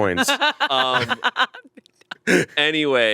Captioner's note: laughs